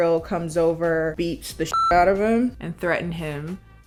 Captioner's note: beep